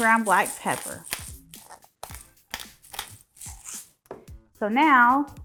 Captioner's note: pepper grinder grinding